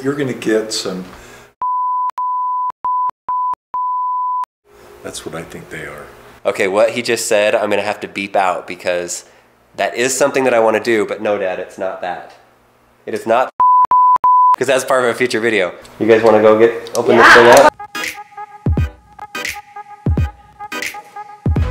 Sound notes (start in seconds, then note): 3.8 beeping; 13.6 beeping; 17.2 upbeat music